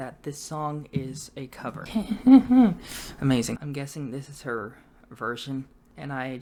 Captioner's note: nervous laughter